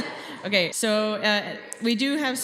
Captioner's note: laughter